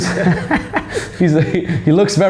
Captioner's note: laughing